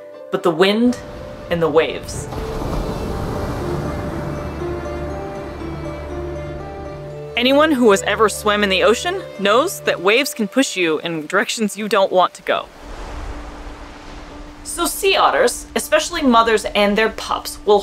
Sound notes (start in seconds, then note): 0.0 background music; 0.9 dramatic waves crashing sound; 2.3 background music; 12.4 waves crashing sound; 12.8 background music